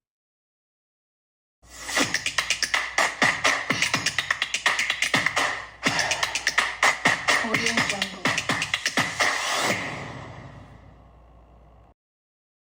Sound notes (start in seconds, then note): 1.8 upbeat music; 9.3 screen swooshes